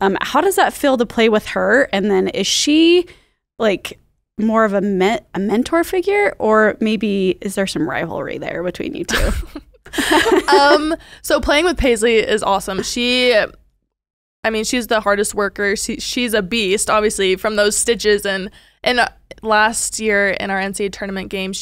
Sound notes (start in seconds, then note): 9.8 laughing together